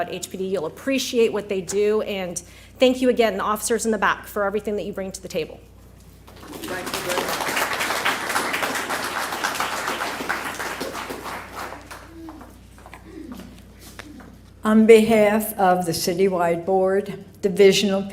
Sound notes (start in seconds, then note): 6.2 applause